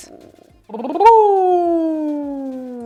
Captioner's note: lips trilling